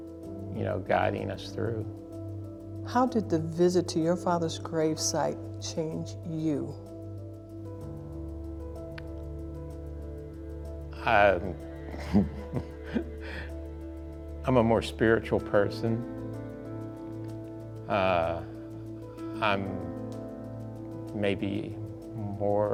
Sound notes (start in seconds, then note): 11.9 laughs